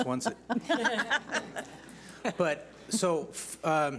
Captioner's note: laughs